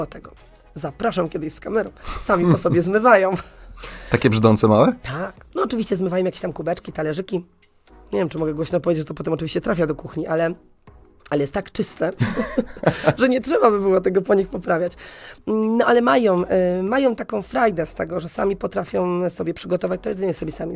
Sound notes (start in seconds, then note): 12.2 śmiech